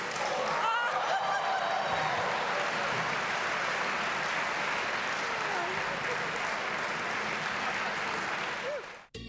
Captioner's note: applause; gasps